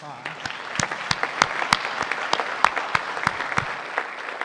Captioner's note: audience applauding